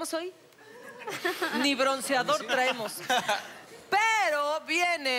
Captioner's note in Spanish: Risas